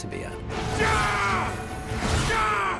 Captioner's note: yelling